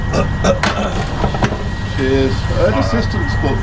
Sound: clears throat

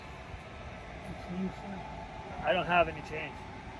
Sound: man begs

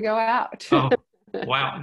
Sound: laughs

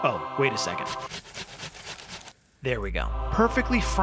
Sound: grating

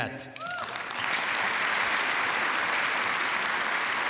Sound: applause

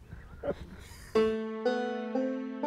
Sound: laughs

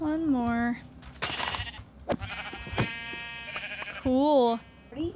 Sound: sheep bleating

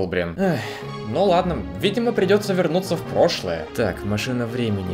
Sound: sigh

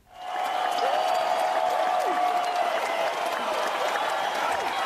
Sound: faculty cheering

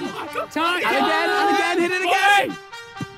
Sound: players laugh; players shout

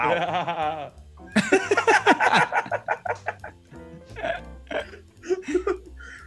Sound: laugh

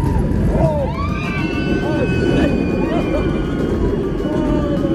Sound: screaming

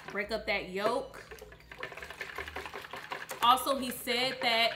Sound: whisk clanging

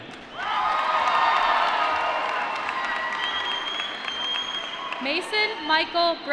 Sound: applause

